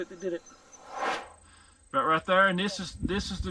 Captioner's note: air swooshes